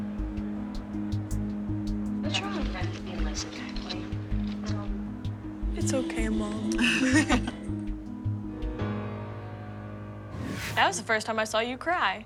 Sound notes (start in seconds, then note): 6.7 both laugh